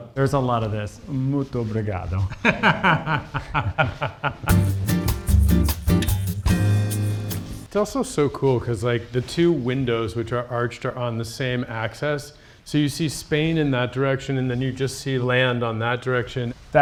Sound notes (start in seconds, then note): 2.3 Nate laughs; 4.4 mellow guitar music plays